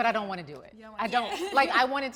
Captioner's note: laughing amusingly